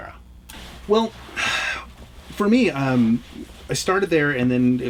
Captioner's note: sighs